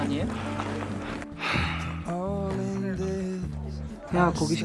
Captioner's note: sigh